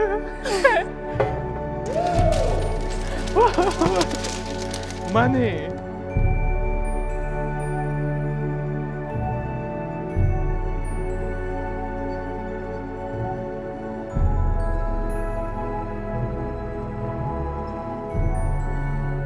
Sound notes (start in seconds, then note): 0.0 laughs; 2.0 host Off Screen excitedly hollers